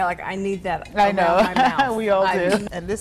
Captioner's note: laughs